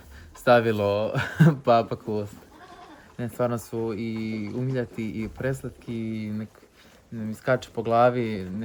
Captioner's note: laughs